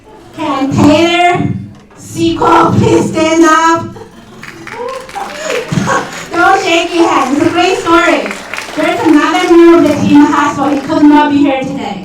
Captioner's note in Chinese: 鼓掌